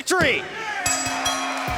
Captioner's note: crowd cheering; bell ringing